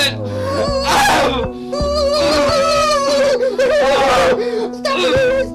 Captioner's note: screams of anguish